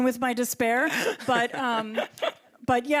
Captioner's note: chuckles